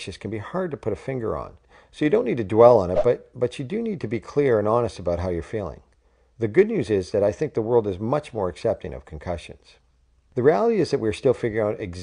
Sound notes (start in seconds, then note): 2.9 sound effect